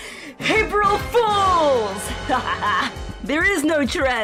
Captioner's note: evil laugh